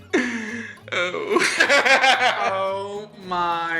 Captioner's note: laughs